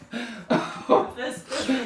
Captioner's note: laughing